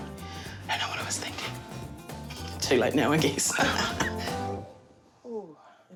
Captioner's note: laughs